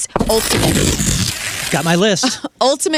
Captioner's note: blowing raspberry